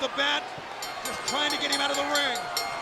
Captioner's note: bell ringing